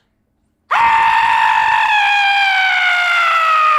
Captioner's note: screams